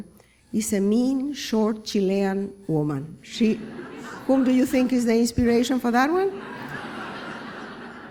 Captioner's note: laughter